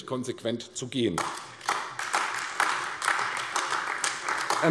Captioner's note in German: Beifall AfD